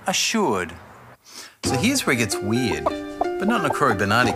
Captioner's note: clucking